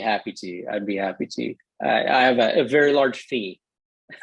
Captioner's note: laughter